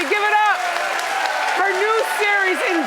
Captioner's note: audience applauding and cheering